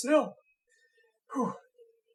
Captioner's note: exhales